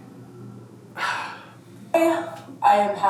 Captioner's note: sighs deeply